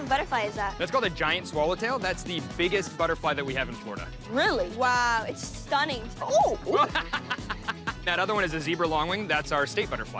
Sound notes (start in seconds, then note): 6.2 laughing